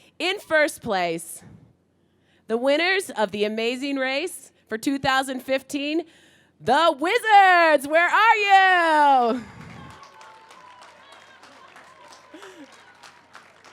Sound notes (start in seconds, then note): 9.5 cheering